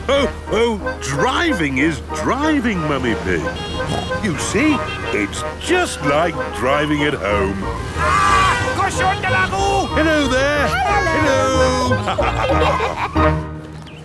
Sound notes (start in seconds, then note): 8.5 yells; 12.4 laughter